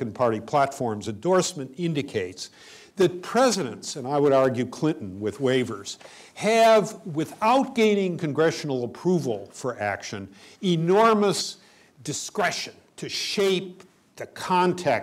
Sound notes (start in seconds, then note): none